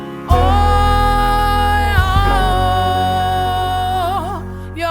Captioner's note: vocalizing